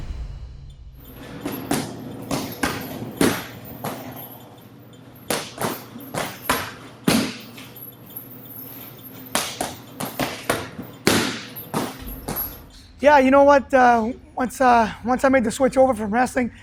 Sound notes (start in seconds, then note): 1.5 smack of punching bag